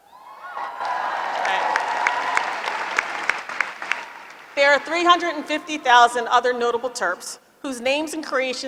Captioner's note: applause